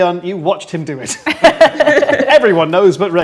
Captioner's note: group laughs